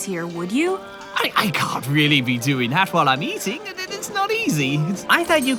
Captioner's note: stammering